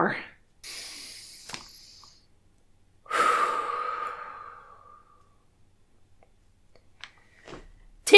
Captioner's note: deep breath